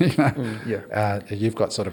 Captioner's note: laughs